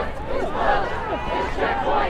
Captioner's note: crowd